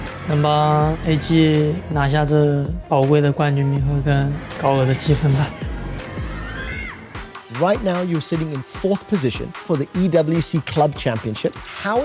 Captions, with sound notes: Hopefully, we can claim this valuable title and earn a high score. [in English] Right now, you're sitting in fourth position for the EWC Club Championship.